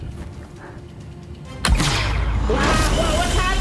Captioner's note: gunshot